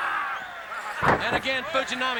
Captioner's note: body slamming